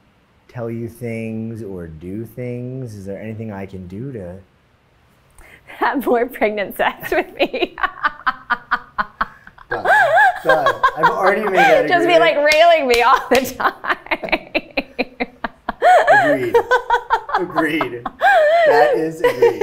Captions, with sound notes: or tell you things or do things? Is there anything I can do to-- - Have pregnant sex with me. (laughing)